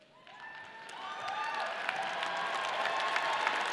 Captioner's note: audience cheers